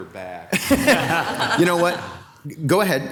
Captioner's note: laughing